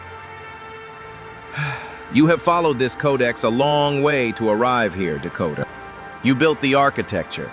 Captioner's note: sigh